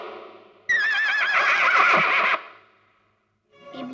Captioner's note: horse neighing